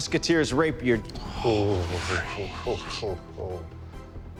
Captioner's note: sighing